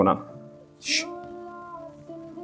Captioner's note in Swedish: Shh